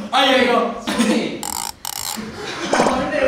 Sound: creaking

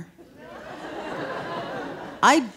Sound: audience laughing

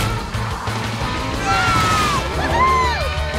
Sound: cheering

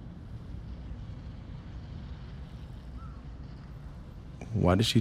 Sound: wind howling

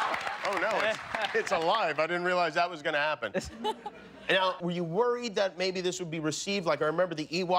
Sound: cheers and applause

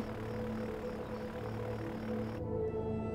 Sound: airplane rumbles

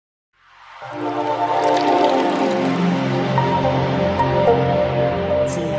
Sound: quiet sounds and flowing water

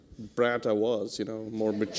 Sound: laughter

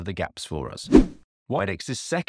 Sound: swooping transition

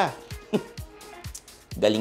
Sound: scoffs

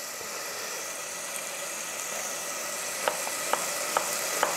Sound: oil sizzling; knife chopping

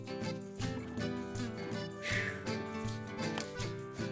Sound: sighs

